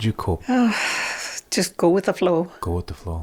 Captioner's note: sighs